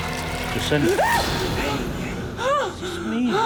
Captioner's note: screams